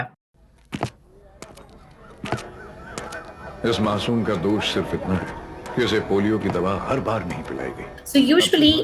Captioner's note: audio from vaccination commercial